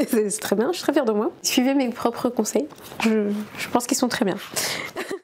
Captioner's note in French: rires